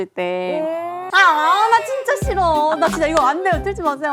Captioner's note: crying